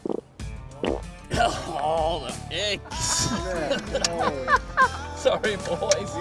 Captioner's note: laughing